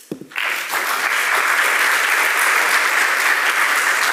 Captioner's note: audience applauding